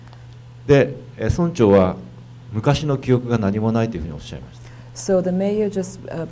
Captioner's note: speaking foreign language